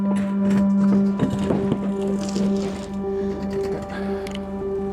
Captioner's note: trailer creaking